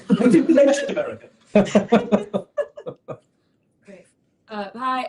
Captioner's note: laughter